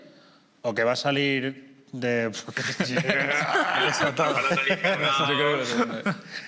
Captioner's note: laughter